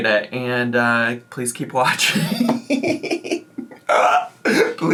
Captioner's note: laughs